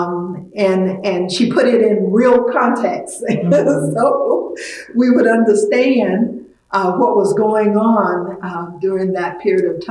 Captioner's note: laughs